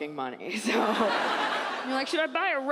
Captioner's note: Iliza laughs